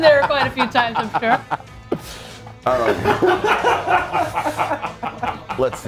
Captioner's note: laugh